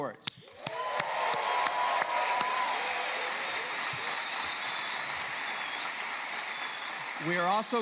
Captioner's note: applause